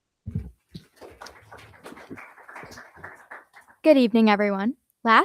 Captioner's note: crowd applauding